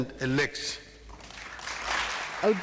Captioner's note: applause